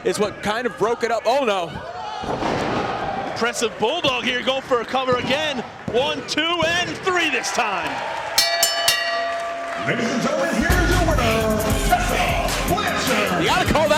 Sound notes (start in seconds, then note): 8.4 bell rings